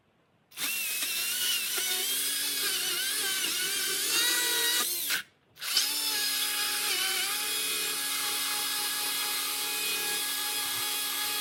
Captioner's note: sounds of sawing